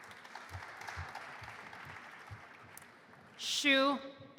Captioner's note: audience applauding